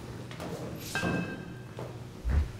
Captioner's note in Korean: 쇠 파이프 울리는 소리